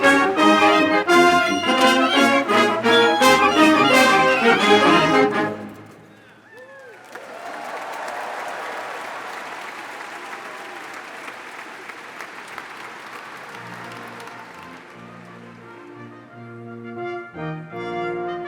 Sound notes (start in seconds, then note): 6.9 crowd applauds; 14.5 dramatic instrumental music